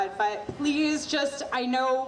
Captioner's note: none